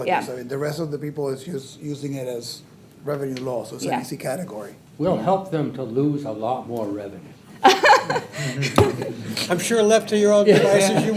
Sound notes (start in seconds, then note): 7.6 laughs; 10.5 trustees laughing